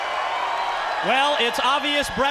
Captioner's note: crowd cheering